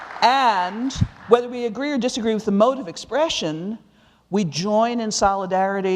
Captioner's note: applause